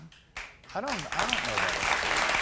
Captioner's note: applause